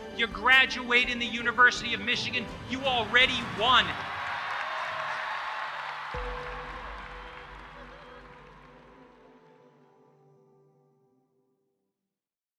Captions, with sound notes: You graduate in the University of Michigan, you already won. (graduates cheering) (gentle music)